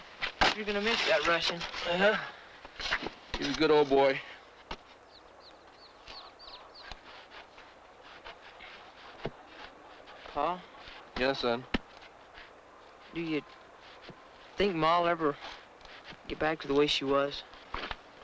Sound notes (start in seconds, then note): none